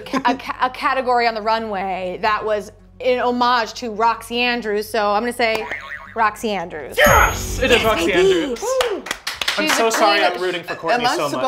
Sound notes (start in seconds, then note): 7.0 buzzer beeps